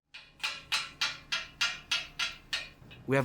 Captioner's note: tool clanging